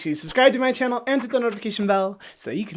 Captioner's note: scratching and dinging